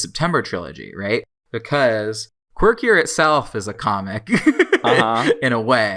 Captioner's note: laughs